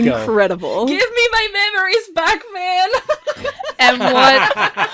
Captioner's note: laughter